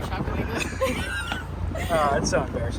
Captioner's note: chuckling